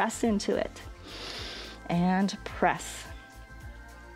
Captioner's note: inhales